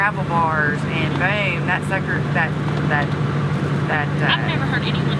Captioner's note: stutters